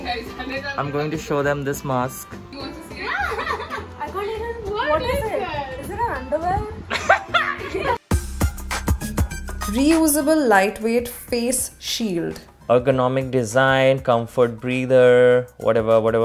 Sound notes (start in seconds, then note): 3.1 laughing; 6.9 laughing